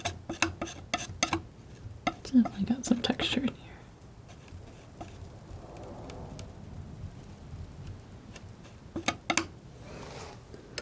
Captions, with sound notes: so I got some texture in here [tapping]